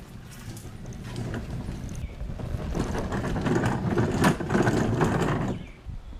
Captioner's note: rolling sounds